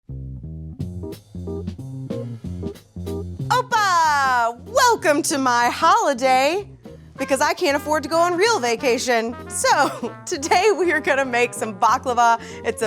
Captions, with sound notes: (fun, upbeat music) - (speaks in foreign language)! Welcome to my holiday because I can't afford to go on real vacation. So today, we are gonna make some baklava.